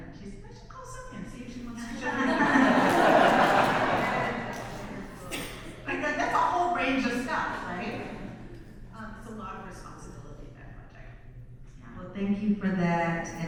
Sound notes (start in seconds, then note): 4.6 audience laughs